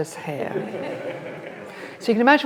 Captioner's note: audience laughs